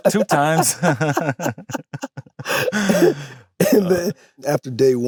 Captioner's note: both laugh